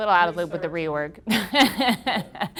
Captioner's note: laughing